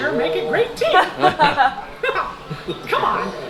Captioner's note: laughing